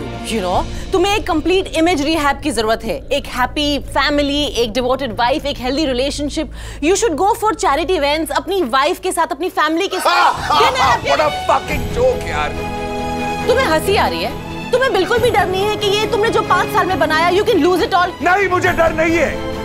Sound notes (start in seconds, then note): 9.9 Karan laughs